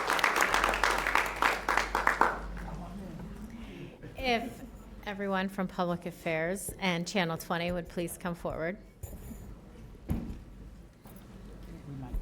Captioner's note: applause